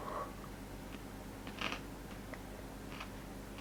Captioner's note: slight Crunch